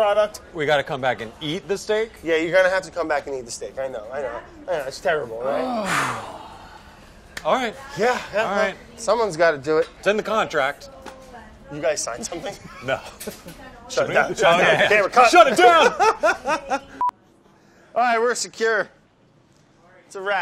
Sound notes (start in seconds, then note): 5.4 sighs; 12.4 laughs; 15.4 laughs